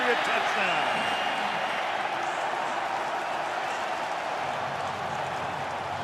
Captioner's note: cheering